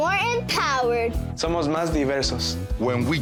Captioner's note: speaking Spanish